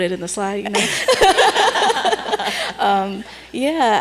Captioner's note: laughing